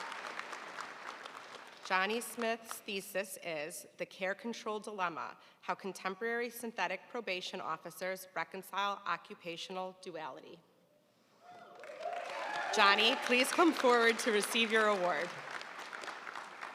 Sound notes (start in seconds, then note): 11.5 audience cheering and applauding